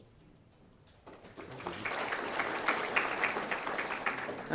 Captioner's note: applause